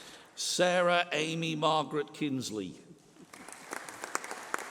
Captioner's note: applause